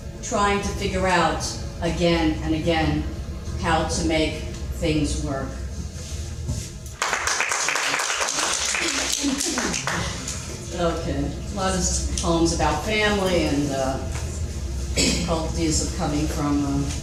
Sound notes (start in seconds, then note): 6.9 audience clapping; 8.3 laughing